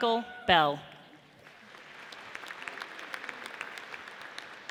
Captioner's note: audience applauds